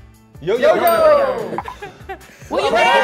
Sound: bell dings

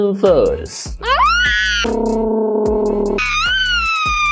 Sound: funny noises

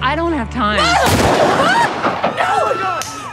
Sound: gun shot

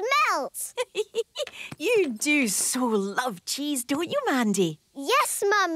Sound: giggling

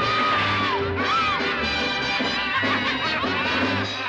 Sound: laughter

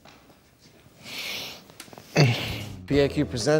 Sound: heavy inhale

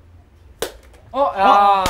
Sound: slap

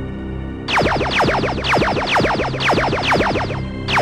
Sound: lasers firing

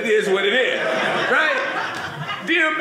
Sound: audience laughing

